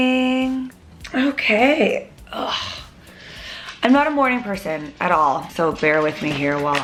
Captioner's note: groans